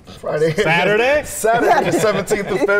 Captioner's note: laughs